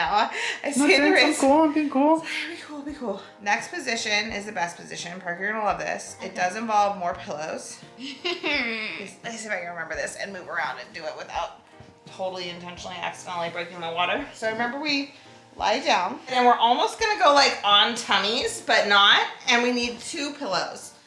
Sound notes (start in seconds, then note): 8.0 laughs